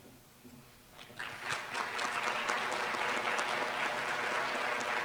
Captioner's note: applause